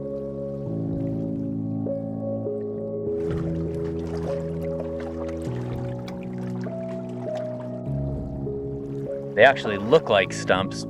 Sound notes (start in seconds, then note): 0.1 sparse, minimalist piano music; 4.8 waters lapping on tree trunks